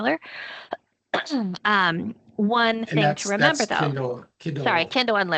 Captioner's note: coughing